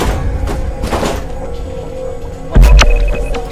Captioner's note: door clatters